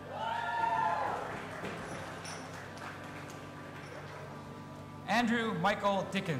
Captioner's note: audience applauding and cheering